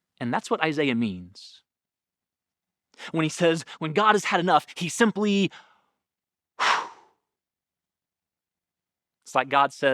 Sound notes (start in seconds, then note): 6.6 blowing air